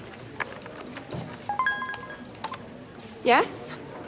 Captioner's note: phone notification beep